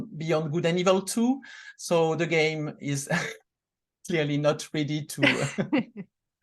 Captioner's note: laughs